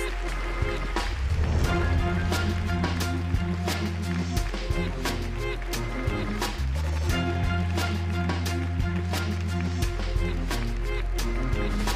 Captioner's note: applause